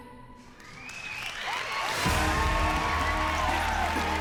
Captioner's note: loud cheering